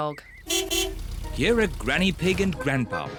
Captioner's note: horn beeps